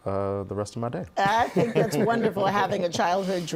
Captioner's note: laughing